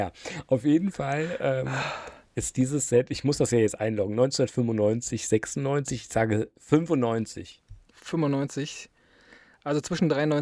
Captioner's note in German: japst